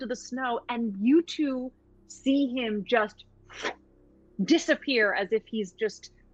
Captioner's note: imitates whooshing